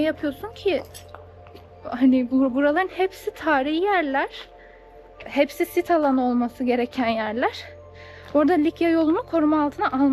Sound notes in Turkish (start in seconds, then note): none